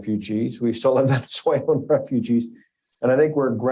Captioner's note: laughs